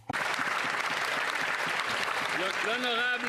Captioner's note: some Applause; speaking French